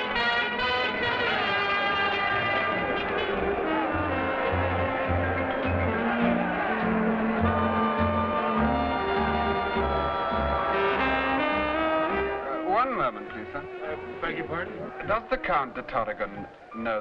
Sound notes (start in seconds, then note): 3.6 crowd conversing quietly; 3.6 slow dance music